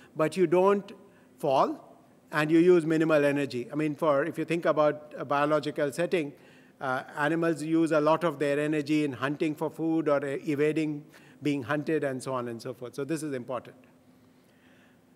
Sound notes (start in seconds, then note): none